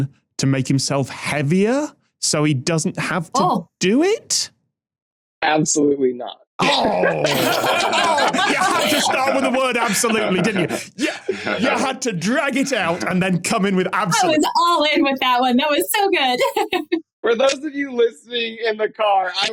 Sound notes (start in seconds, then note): 7.1 guests laughing